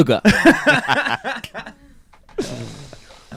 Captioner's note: laughing